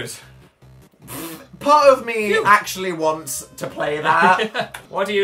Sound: laughs

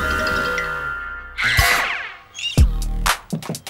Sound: screams

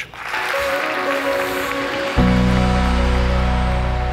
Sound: crowd claps

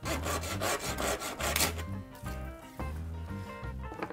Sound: sawing sounds

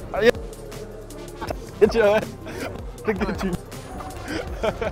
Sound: players laughing

